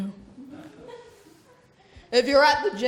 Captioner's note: laughter